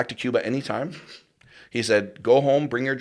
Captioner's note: chuckles